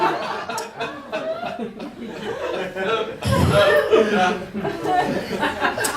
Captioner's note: many slow, deep laughs from different people